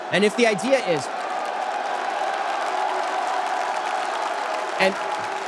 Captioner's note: audience cheers